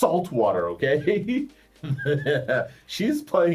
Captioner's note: laughs